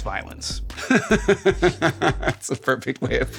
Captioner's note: laughing